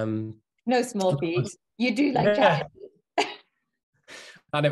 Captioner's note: laughing